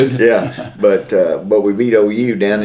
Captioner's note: laughs